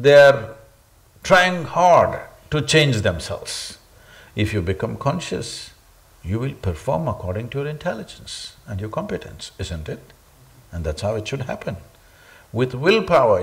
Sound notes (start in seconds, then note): none